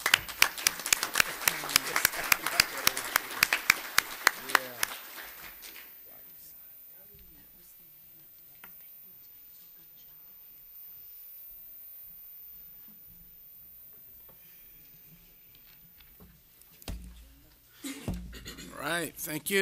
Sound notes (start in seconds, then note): 5.8 applause